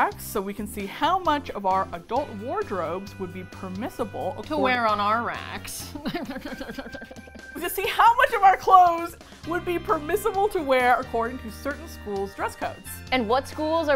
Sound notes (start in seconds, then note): 4.9 snobbishly; 5.9 laughs hollowly